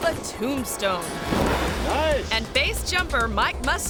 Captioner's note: parachute swooshing